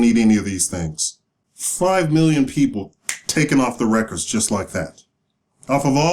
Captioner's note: snap